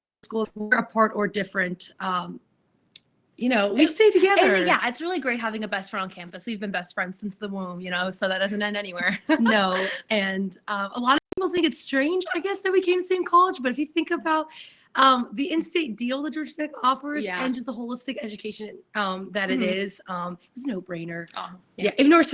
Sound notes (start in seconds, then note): 9.0 chuckles